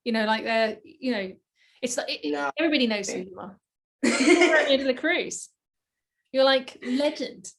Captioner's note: hehehe